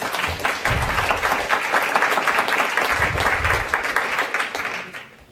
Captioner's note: applause